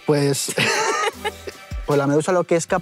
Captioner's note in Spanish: Risas